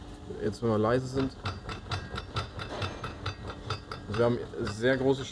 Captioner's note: clacking